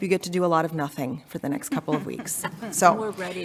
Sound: board members chuckling

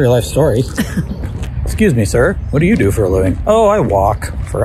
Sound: laughs

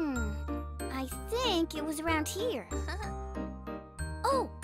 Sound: chuckles

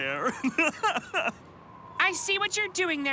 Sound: laughs

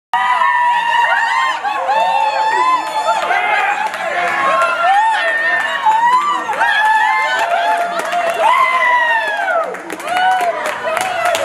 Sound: applause

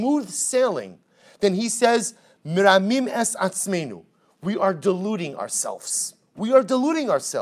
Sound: Hebrew

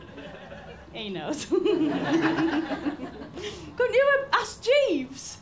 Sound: saucy giggle

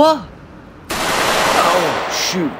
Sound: gunfire

